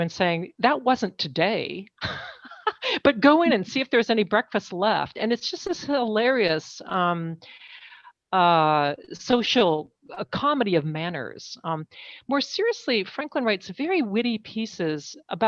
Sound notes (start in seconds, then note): 2.0 laughs